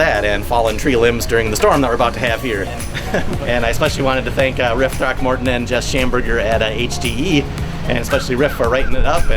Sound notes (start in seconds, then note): 2.3 chuckles